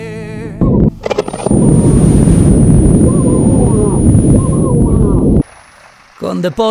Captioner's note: dystopian sound